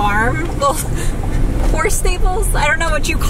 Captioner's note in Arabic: ضحكات خافتة